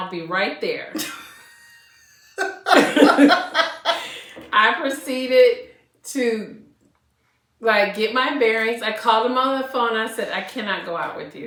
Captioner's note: laughter